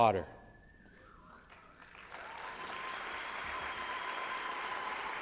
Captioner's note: applause and cheering